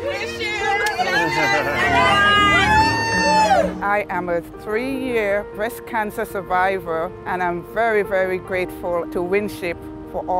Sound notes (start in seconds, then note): 0.1 woman shouting joyfully; 0.8 women cheering happily